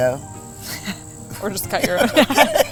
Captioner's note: laughing